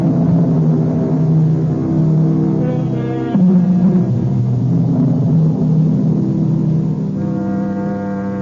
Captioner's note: horns; horns